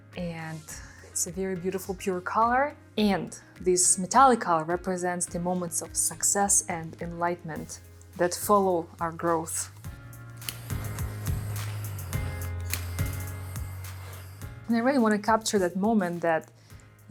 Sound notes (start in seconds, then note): 9.9 pleasant music; 10.0 gadget hissing